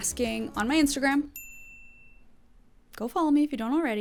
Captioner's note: bell dings